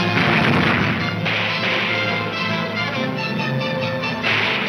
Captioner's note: gunshots banging